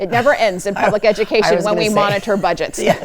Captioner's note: laughs